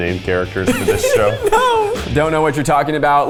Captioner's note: laughs